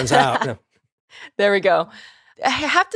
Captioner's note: laugh